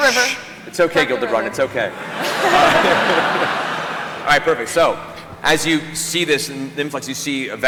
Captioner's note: shushing